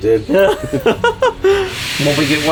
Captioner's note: laughing